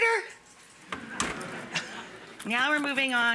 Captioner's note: audience laughing